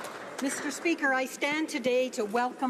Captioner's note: some Applause